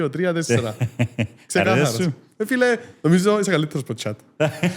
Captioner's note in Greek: γέλιο; γέλιο